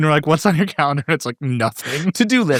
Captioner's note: laughs